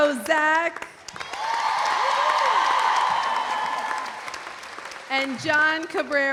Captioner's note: audience applauding; audience cheering